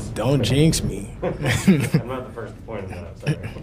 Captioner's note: both laugh